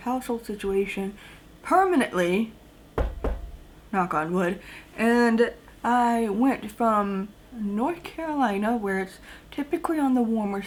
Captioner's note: knocks on desk